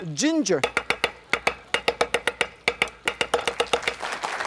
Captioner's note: knife chopping rhythmically; audience applauding